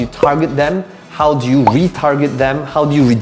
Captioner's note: bubble popping